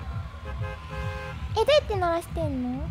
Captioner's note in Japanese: クラクションの音